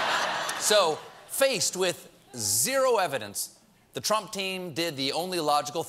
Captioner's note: laughter